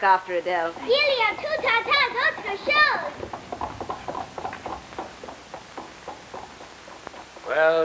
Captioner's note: speaking french